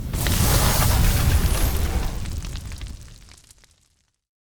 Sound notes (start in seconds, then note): 0.0 fire crackling